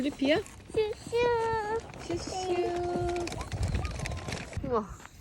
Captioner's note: imitating a train🤣